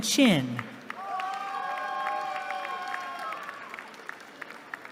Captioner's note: cheering